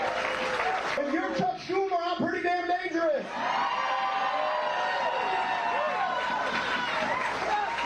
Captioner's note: cheers and applause